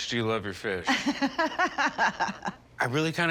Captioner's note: laughs